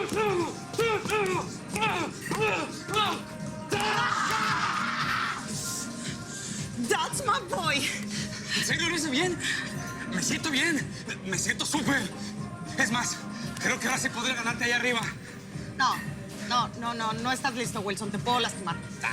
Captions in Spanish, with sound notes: [Gruñidos] [Gritos] - ¡ESE ES MI MUCHACHO! - ¿EN SERIO LO HICE BIEN? ¡ME SIENTO BIEN! ¡ME SIENTO SÚPER! ES MÁS, CREO QUE AHORA SÍ PODRÍA GANARTE ALLÁ ARRIBA. - NO. NO, NO. NO ESTÁS LISTO, WILSON, TE PUEDO LASTIMAR.